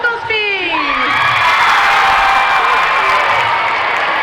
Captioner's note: crowd cheering